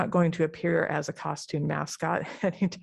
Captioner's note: laughter